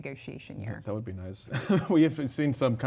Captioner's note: chuckles